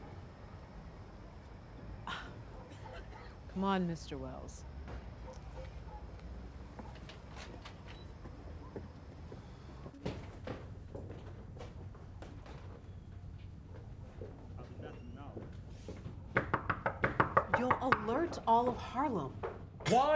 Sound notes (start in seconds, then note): 16.3 knocking